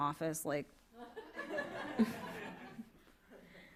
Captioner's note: laughter